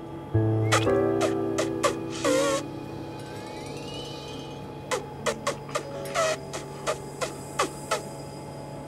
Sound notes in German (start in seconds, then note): 1.5 Elefant trötet; 4.9 Elefant trötet